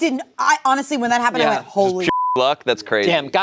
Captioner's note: beep